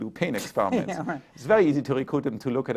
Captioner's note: chuckles